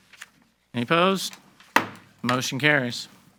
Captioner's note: gavel banging